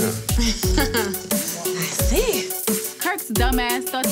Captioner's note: laughing